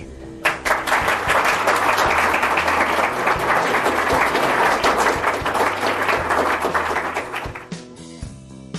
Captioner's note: applause